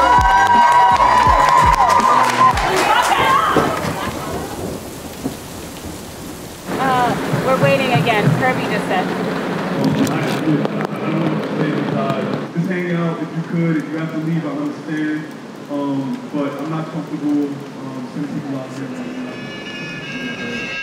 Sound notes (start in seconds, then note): 0.0 crowd clapping and cheering; 3.3 rain falling